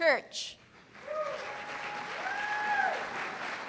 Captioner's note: cheers and applause